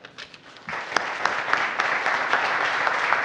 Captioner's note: applause